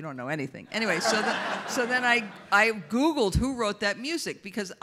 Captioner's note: audience laughs